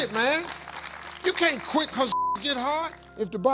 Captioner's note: beep